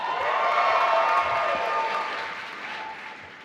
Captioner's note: applause